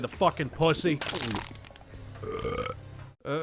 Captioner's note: Duke Nukem drinks tall boy, burps